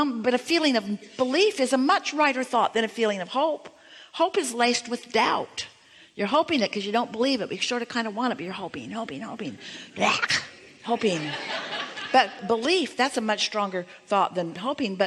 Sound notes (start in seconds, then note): 10.6 audience laughing